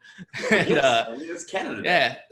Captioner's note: laughs, voices overlap